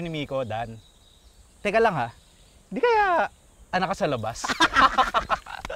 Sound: laughter

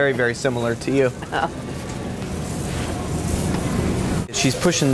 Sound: giggles

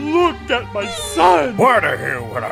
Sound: squee

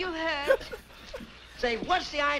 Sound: laughs

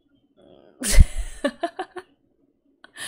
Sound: laughs

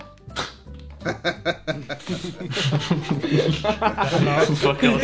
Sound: everyone laughing

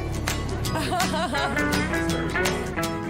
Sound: laughing

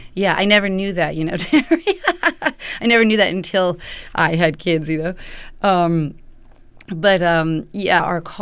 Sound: laughter

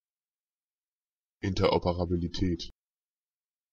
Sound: fast Pronunciation

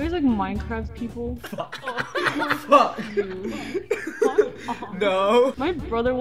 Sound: swearing and chocking on laughter

